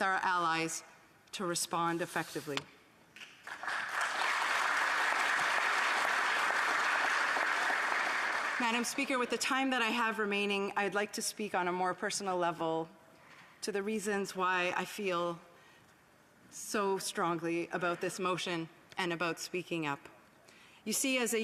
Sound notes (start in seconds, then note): 8.7 applause